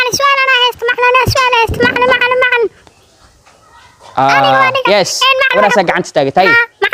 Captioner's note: children shouting and raising hamds